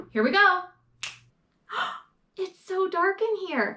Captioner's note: snaps